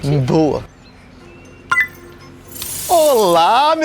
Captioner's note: click